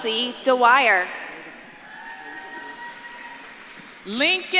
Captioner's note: audience claps and cheers